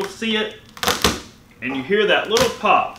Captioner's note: garlic popping